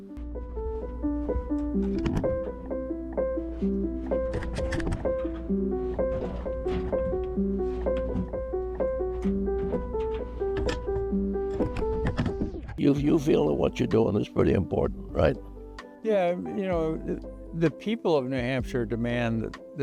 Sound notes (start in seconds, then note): 10.4 camera rattles